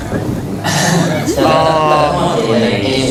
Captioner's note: haha